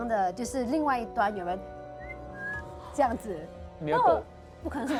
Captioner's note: whistle sound